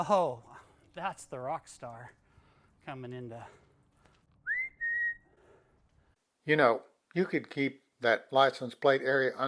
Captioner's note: whistle